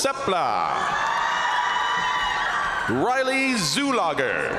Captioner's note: crowd cheering; crowd applauding